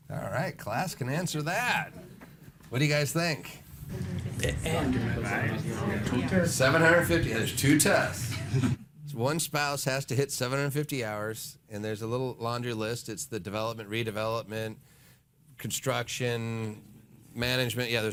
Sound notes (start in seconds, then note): 3.9 audience chattering